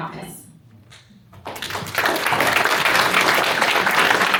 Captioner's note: applause